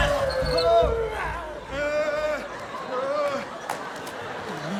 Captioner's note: all groaning